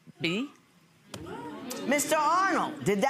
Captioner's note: audience gasps